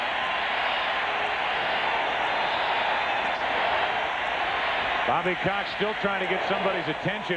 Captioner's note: cheering